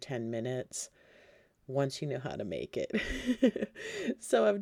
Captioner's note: laughing